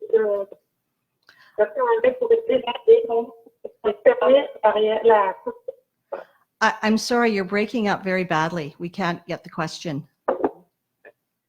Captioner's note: speaking in French